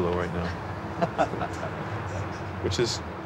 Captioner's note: laughs